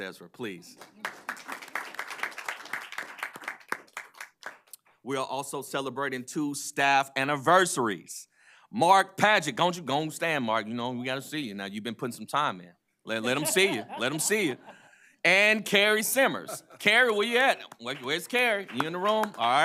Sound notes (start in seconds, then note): 5.0 applause